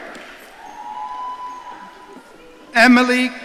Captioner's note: audience cheering